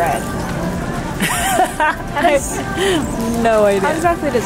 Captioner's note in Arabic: يضحك